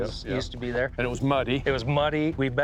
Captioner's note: laughs